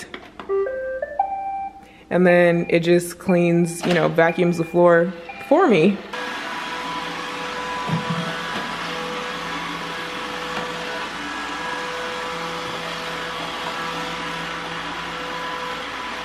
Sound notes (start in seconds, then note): 0.3 dings; 7.1 whirring